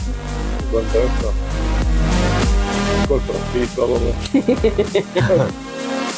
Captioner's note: laughter